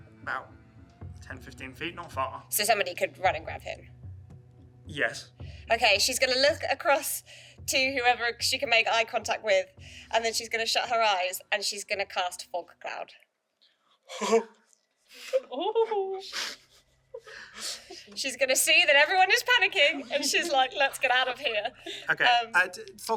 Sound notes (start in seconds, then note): 14.6 shocked gasp